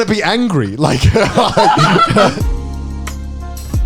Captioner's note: all laugh; soft upbeat music